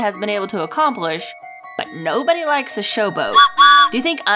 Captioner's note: toot toot